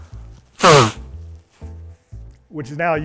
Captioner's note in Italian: soffio